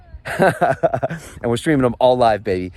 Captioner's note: laughs